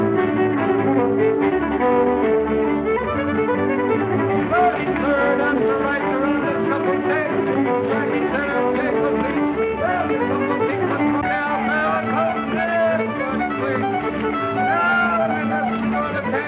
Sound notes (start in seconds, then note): 3.7 hollering